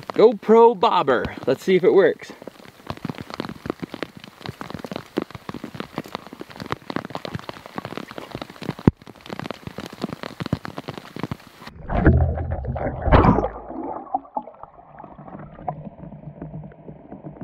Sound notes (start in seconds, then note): 3.3 rain splashing